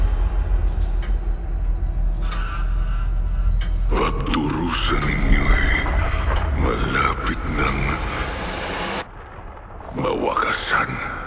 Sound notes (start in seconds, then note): 4.9 clock ticking